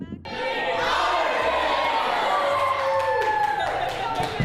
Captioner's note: group yelling